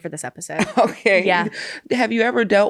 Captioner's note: laughs